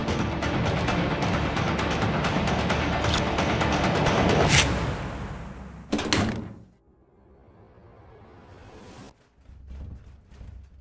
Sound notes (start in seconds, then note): 4.6 scratch